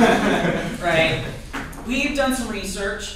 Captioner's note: laughter